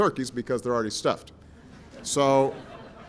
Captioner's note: laughter